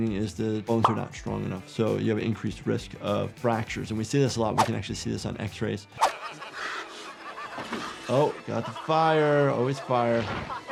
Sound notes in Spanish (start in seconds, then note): 6.0 hombres riendo; 6.2 música dramática